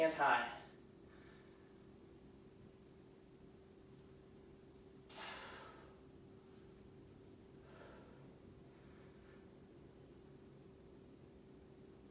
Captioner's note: inhaling and exhaling